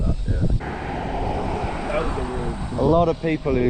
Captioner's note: car engine roaring